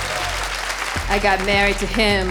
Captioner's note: audience applauding; audience cheering